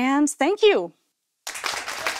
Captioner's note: applause